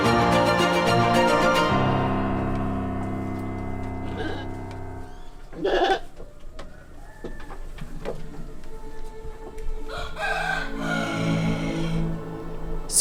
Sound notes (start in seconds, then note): 5.6 sheep bleating; 9.8 rooster crowing